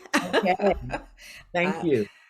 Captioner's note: both laugh